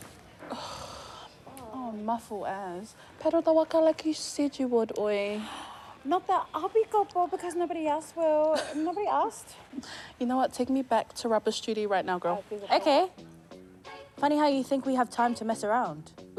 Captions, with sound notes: (KIKI SIGHS IN DISGUST) - Oh, mafu as. Paddle the waka like you said you would, oi. - (GASPS) Not the, 'I'll be Taupou because nobody else will.' - (SCOFFS) - Nobody asked. - You know what? Take me back to rubbish duty right now, girl. - I'd be— - OK. Funny how you think we have time to mess around.